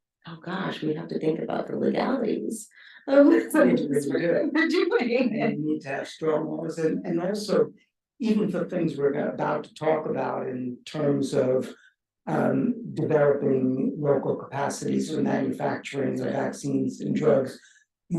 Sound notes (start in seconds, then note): 5.0 speaking faintly; 5.2 chuckles